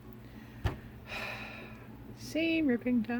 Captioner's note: heavy sigh